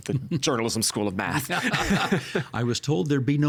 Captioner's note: both laughing